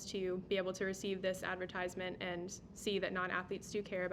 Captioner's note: none